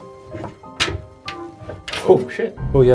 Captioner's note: door rattles